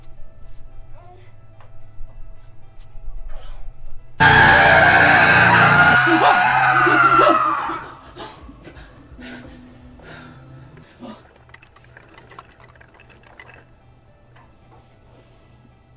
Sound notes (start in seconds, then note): 4.2 startled shouting; 12.3 faint rattling